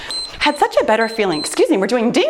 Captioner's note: timer beeps